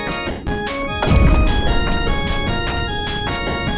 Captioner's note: bang!